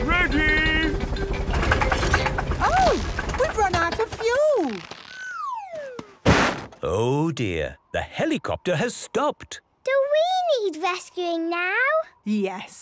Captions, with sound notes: - Ready! (helicopter engine sputtering) - Oh, We've run out of fuel! - (bangs) - Oh, dear. The helicopter has stopped. - Do we need rescuing now? - Yes.